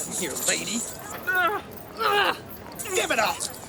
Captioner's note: mentalist groans